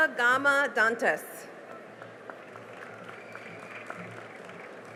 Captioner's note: cheering and applause